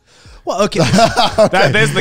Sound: laughing

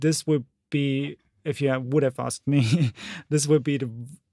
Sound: giggles

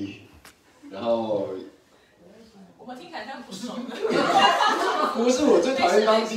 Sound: everyone laughs

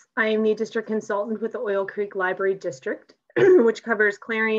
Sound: coughs

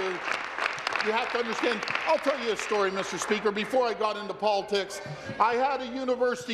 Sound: applause

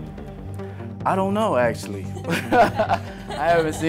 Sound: laughter

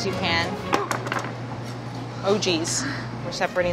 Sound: knife clattering

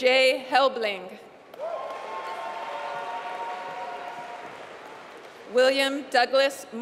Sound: applause

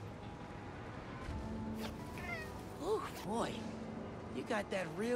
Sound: none

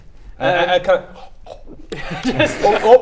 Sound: scoffing noises

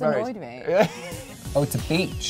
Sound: laughs

